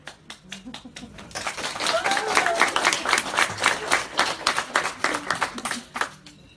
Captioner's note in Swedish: Applåder